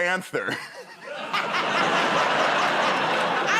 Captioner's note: laughter